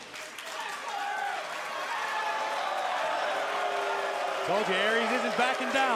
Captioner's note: crowd cheering